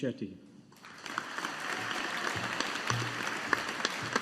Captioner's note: audience applauding